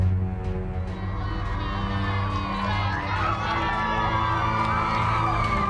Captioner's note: cheering